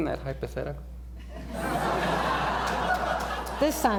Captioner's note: laughter